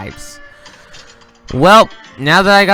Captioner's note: inhales